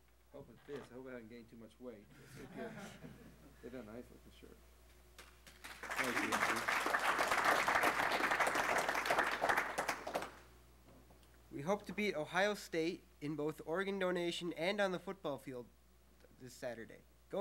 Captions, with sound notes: - I hope it fits, I hope I haven't gained too much weight. (laughing) Isn't that nice, this shirt? Thank you, Andrew. (crowd clapping) - We hope to beat Ohio State in both organ donation, and on the football field, this Saturday.